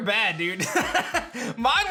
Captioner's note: laughs